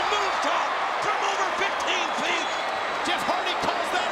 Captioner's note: audience cheering